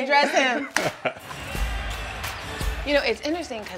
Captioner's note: chuckles